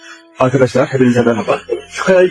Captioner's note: Turkish dialogue continues